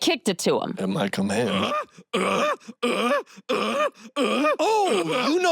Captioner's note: screams rhythmically